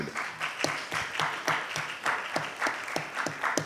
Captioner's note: applauds